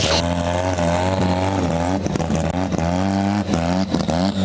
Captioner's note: engine rumbles